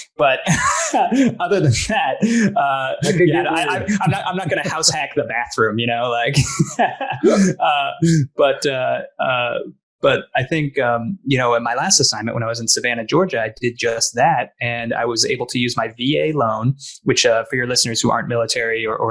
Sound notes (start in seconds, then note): 0.0 laughs; 6.2 both laughing